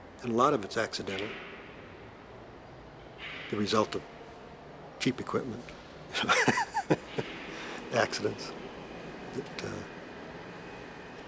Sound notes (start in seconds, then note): 6.1 Bruce laughs